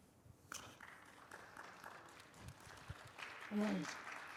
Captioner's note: audience claps